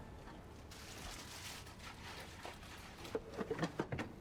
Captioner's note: rummaging